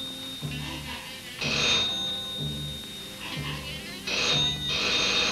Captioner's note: doorbell rings insistently